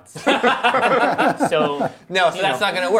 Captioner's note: laughing